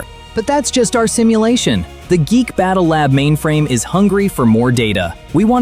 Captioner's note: thoughtful